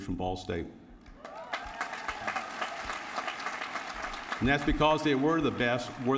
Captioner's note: applause